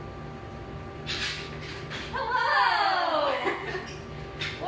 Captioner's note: laughter